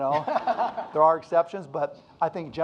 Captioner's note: audience laughing